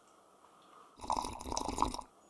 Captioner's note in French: bruit de bouche